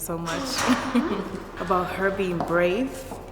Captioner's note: laughs